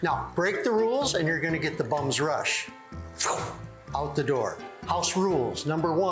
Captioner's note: poof